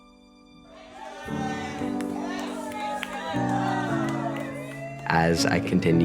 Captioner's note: cheering